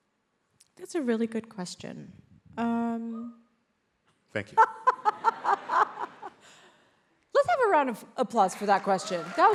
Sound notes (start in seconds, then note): 4.6 laughs; 8.4 audience applauds